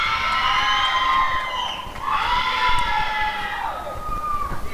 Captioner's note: applause and cheering